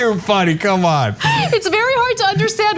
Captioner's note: laugh